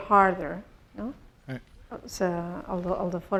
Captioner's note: speaking spanish